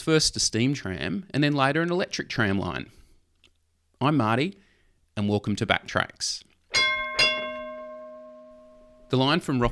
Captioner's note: tram Bell